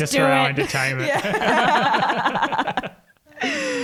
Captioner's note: all laugh